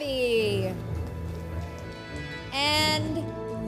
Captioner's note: light applause and cheers